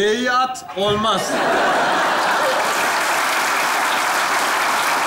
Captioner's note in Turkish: Kahkaha ve alkış sesleri